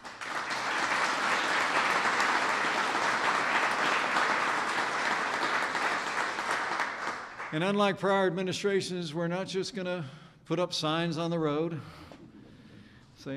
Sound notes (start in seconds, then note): 4.7 applause